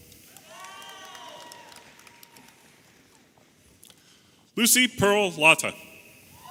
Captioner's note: audience applauding and cheering